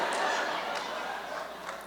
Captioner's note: laughter